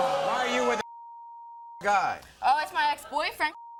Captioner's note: audience groans; beep